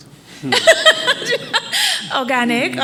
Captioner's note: attendees laughing